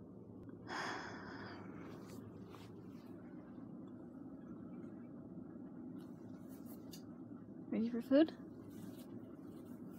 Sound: exhales

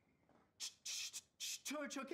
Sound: Dave beatboxing

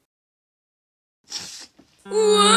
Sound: sniffle

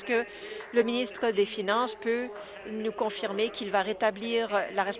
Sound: some Applause

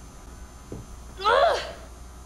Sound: grunts

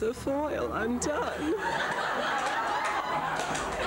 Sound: laughter

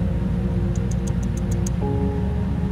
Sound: tongue clicking sounds

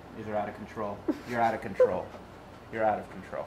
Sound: laughs

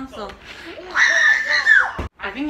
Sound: screamed

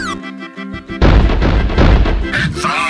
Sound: thuds

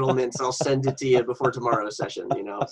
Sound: laughing

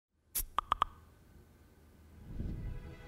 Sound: knocking; gentle orchestra music

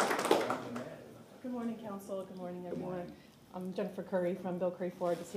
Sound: applause

